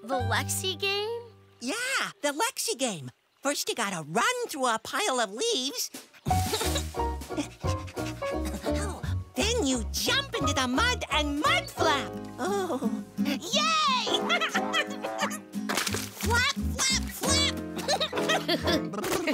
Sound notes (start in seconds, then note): 5.5 panting; 13.2 giggling; 17.6 shivering; 17.8 giggling